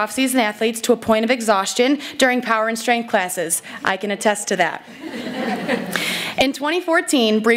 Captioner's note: laughter